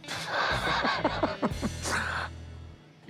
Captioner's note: chuckling